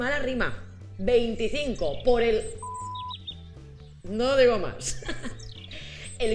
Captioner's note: beep sound; laughs